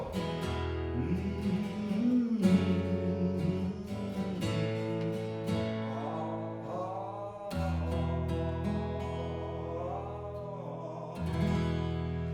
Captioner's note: humming